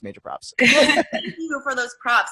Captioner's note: laughing